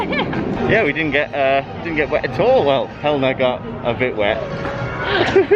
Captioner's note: laughter; laughter